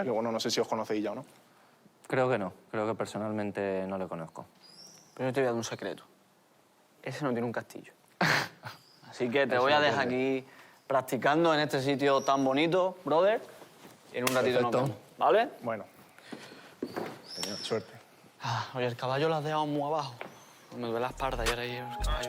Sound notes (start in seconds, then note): 8.1 laughs